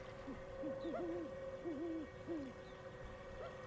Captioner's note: owl hooting